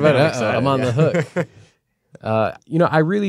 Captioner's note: laughter